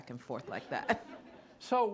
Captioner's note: laughter